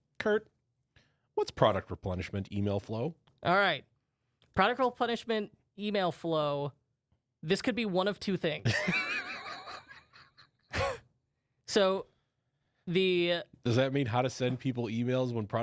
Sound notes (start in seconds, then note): 8.6 laughs; 11.8 laughs